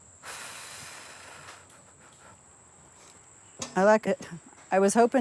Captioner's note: sighs